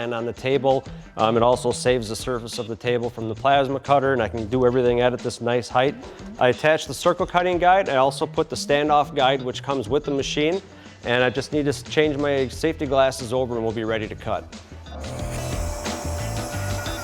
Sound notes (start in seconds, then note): 12.7 whirring